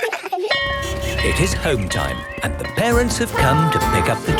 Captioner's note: laughter; bell clanging